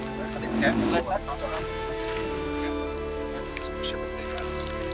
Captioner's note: indistinct conversation